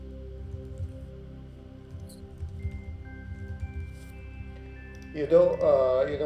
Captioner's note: keyboard faintly clacking